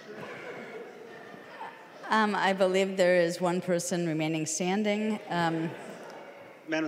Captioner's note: laughing